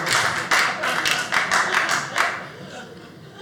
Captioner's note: audience applauding